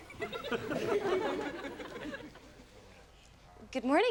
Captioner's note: audience laughs